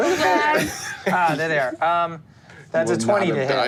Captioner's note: Kingston laughs